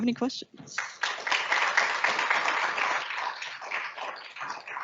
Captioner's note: audience applauds